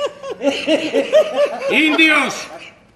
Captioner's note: γέλια